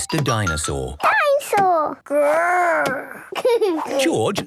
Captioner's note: giggles